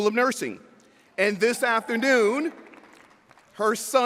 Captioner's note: audience whooping